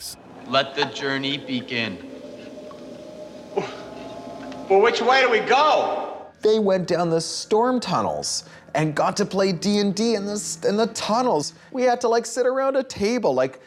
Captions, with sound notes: -Let the journey begin. [ Eerie music plays ] -[scoff] But which way do we go?! -They went down the storm tunnels and got to play D&D in the tunnels! We had to like sit around a table like, like,